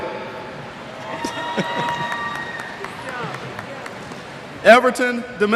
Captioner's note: cheers